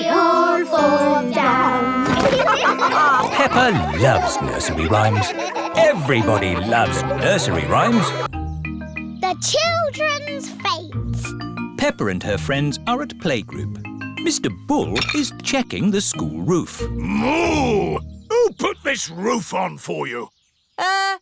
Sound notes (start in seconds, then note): 2.1 all laughing